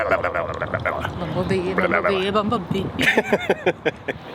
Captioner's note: gibbering with tongue